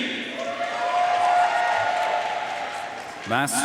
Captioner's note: audience cheering and applauding